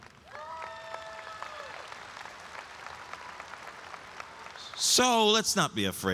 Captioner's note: audience applauds and cheers